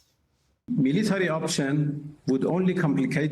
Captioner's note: through translator